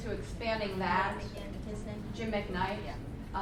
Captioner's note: voiceover